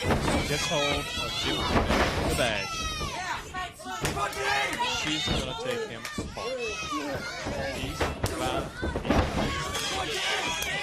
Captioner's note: crowd chatter